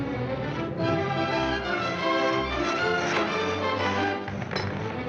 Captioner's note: saw chewing through wood; clank